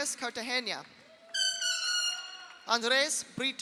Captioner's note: audience applauds; audience cheers